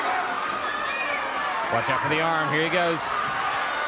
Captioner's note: crowd cheering